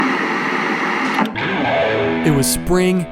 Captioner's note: static buzzing; guitar music